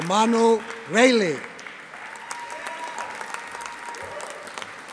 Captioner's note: audience applauding